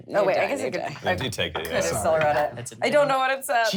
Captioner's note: overlapping chatter